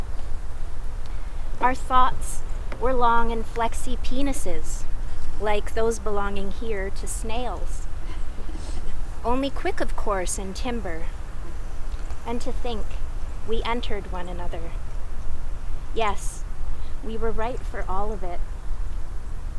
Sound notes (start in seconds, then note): 5.4 group laughs quietly